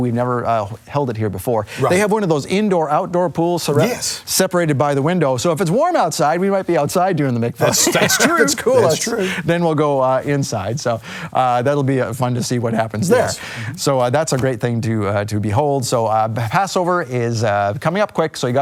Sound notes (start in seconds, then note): 7.6 laughs